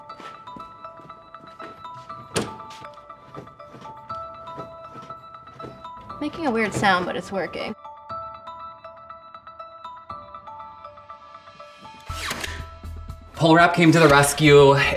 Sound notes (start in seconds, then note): 0.1 contemplative music; 2.2 drawer thudding; 8.3 contemplative music